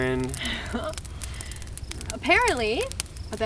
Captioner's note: chuckles